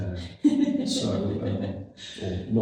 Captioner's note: laughs